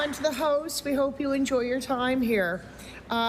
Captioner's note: applause